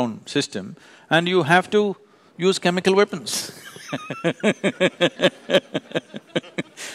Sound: laughter

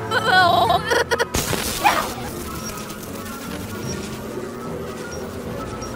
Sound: electricity crackling

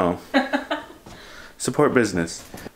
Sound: laughing

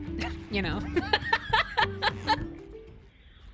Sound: laughter

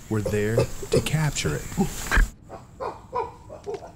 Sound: chimps grunting

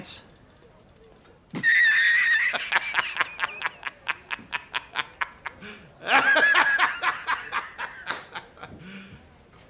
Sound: laughing

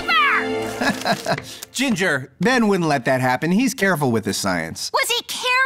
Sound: nervous laugh

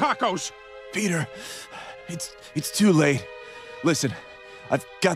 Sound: wheezing

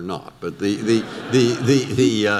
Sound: audience laughter

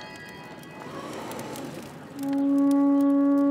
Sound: chiming; horn blowing

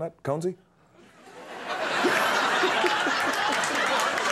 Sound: audience laughs

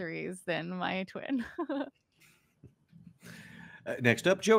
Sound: chuckling

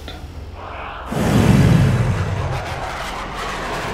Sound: batmobile engine roars

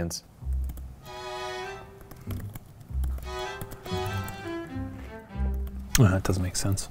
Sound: gentle music; keyboard keys clanking

